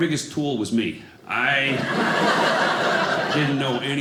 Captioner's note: audience laughing